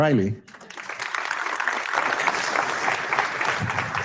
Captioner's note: audience clapping